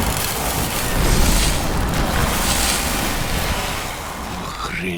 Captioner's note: electricity crackles